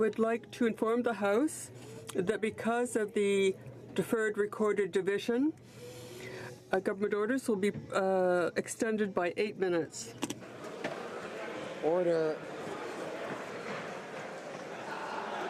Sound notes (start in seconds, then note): 1.1 speaking French